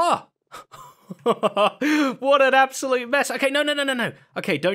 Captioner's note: laughs